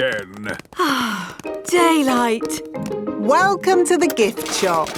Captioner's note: sighs